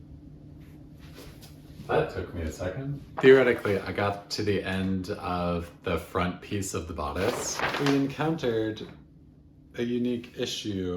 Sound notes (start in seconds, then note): 7.1 paper rustling